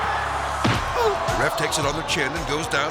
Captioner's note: hit thuds; ref grunts